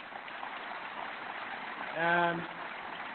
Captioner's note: applause